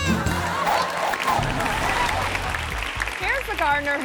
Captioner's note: quizzical music; audience cheering